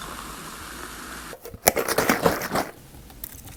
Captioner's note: fizzzzzzz; violent milk shaking sounds; pouring noises